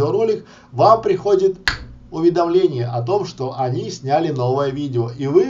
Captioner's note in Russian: щелчок